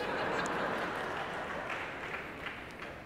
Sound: laughter

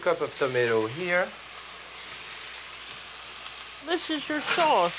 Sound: pan sizzling

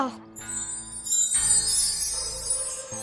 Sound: magical Sound

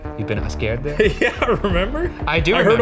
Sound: laughing

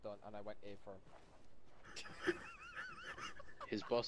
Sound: laughter

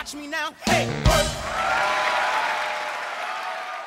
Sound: applause

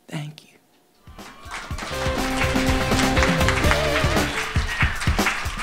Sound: audience clapping; instrumental music

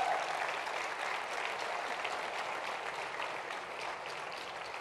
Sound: cheer and applause

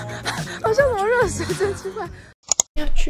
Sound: laugh

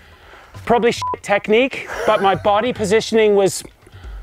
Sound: beep

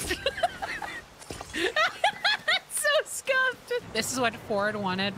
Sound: laughter

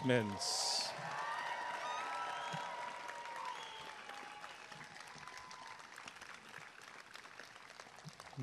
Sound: applause and cheering

